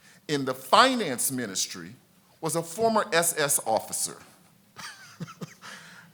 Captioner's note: laughs